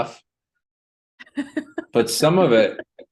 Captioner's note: laughter